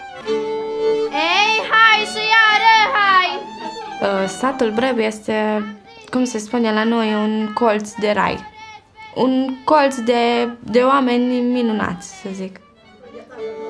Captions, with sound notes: [FOREIGN DIALOGUE] The village of Breb is what we call a piece of heaven. A corner full of wonderful people, if I can say that.